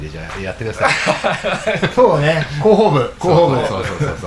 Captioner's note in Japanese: 笑い